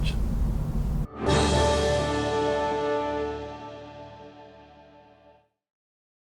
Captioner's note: triumphant sound